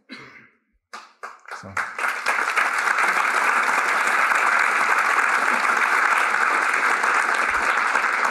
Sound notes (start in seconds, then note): 0.9 applause